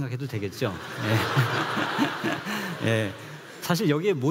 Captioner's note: laughs